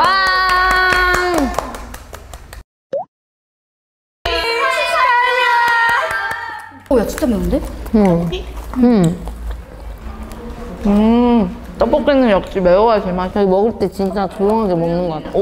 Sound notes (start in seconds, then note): 8.9 nibble Nibble